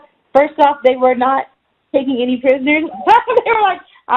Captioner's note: laughing